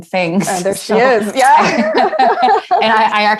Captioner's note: laughing